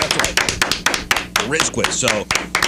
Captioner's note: clapping